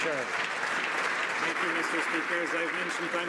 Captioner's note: some Applause